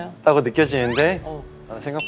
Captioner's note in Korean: 긁적